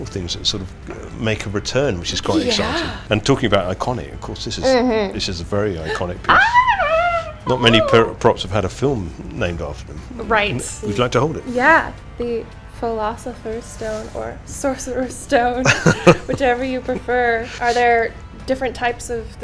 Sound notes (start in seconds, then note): 6.2 squeals